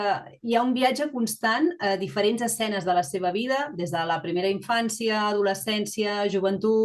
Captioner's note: continues speaking in Catalan